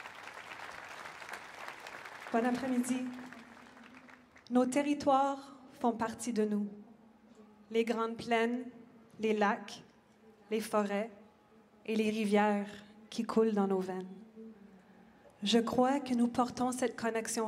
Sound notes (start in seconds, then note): 0.0 speaking French; 3.7 applause; 7.3 speaking French